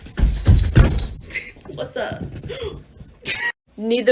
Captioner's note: gasp